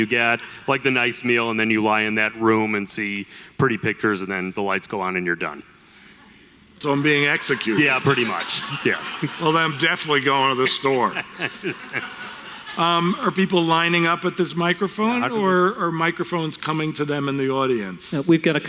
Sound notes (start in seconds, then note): 9.9 audience Laughter